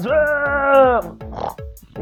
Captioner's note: pig noise